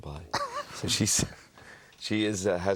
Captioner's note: laughs